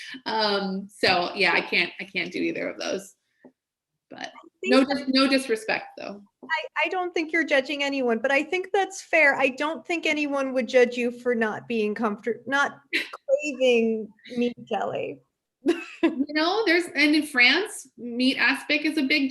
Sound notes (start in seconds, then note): 12.9 laughs